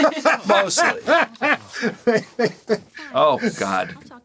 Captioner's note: laughing